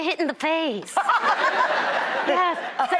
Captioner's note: audience laughing; laughs